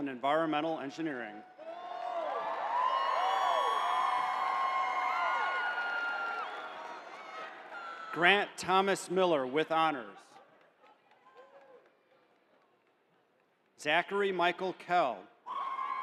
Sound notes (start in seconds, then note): 4.3 cheering